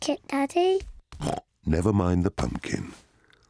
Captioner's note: snorts